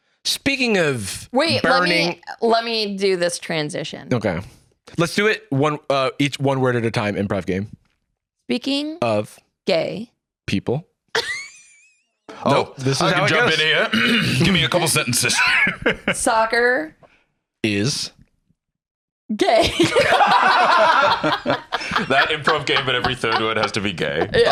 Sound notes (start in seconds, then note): 11.1 laughs; 15.6 laughs; 19.4 all laughing